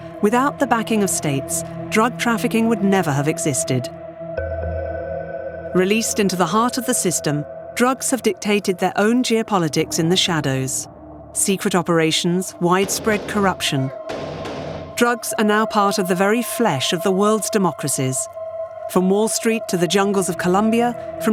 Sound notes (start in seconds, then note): 14.1 guns firing